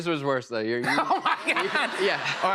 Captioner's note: laughs